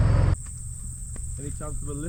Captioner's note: crickets chirping